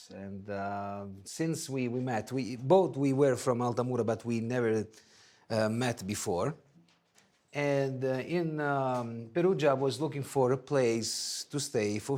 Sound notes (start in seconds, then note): none